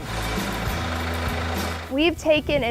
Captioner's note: tractor engine